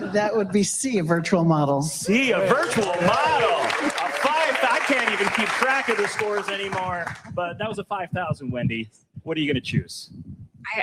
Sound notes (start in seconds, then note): 2.4 audience clapping and cheering